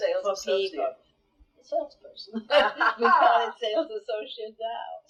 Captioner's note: laughs